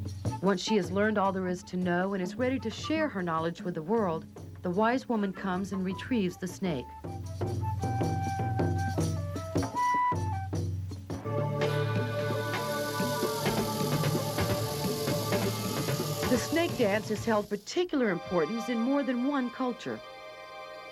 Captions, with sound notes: Once she has learned all there is to know and is ready to share her knowledge with the world, the wise woman comes and retrieves the snake. [SNAKE HISSING] The snake dance has held particular importance in more than one culture.